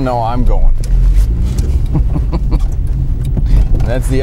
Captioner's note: laughs